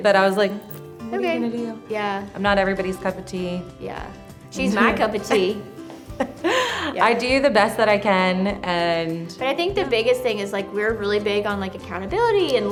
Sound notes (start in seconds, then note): 4.7 laughs